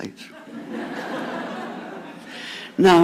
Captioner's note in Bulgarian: Смях